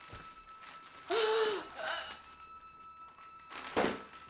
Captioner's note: Joan gasping